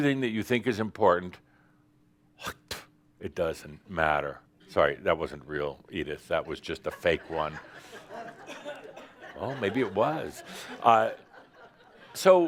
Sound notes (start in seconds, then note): 6.4 laughter